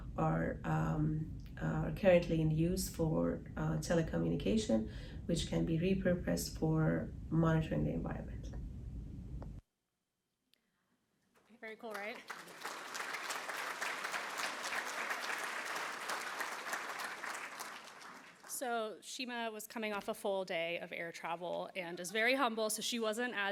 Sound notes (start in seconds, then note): 11.6 applause